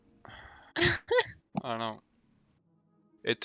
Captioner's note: haha